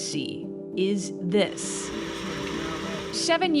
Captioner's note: machinery whirring